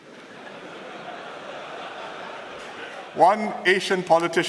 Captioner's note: laughter